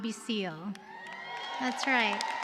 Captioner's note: cheers and applause